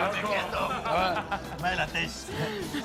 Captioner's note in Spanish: Risas